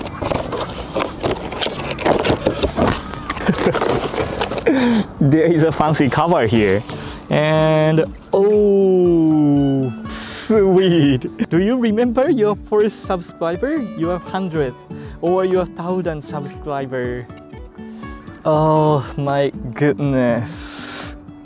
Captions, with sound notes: [CHUCKLES] There is a fancy cover here. And... Oooooh... Sweeet! "Do you remember your first subscriber?" "Your 100th?" "Or your 1,000th subscriber?" Oh... my goodness...